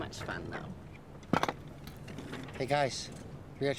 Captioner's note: compass clatters